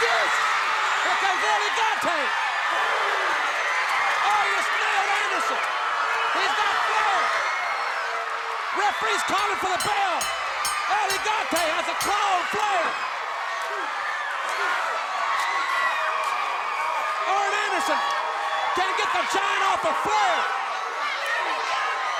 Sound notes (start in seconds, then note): 7.8 crowd clamoring; 9.3 bell ringing; 14.0 blows thudding; 15.4 crowd clamoring